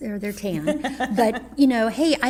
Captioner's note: laughs